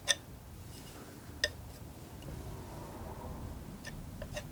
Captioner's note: tapping